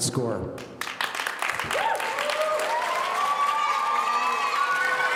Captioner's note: audience cheering